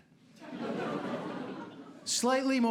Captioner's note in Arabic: ضحك